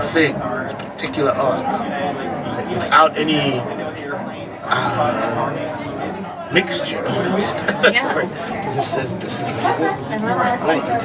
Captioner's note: laughs